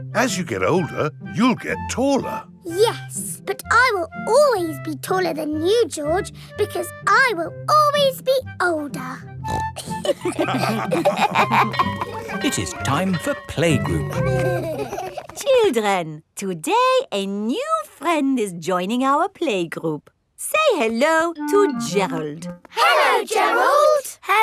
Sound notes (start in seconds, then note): 9.4 snorts; 9.8 all laughing; 10.5 school bell ringing; 13.8 giggling